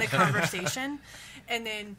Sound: laughs

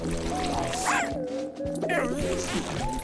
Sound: barking

